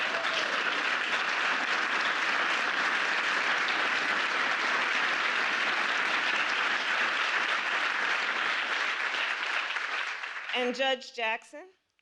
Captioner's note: applause